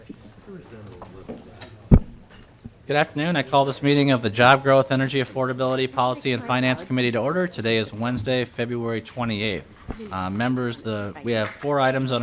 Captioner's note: gavel